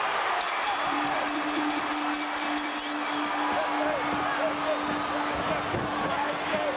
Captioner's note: crowd chattering; bell ringing